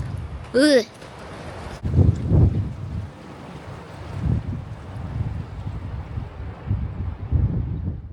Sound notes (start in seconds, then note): 1.8 wind